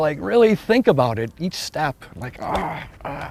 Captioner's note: grunting